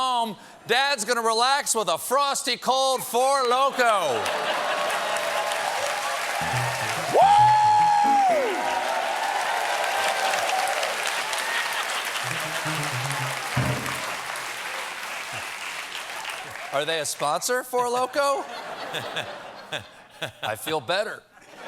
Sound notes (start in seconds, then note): 6.0 cheers and applause; 9.0 piano riff